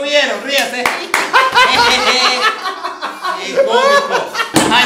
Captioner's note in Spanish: Risas